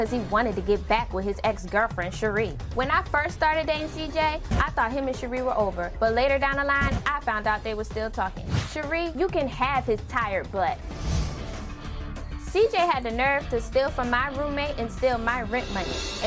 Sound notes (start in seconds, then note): none